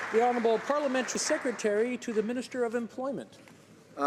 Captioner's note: some Applause